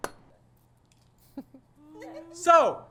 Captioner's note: giggles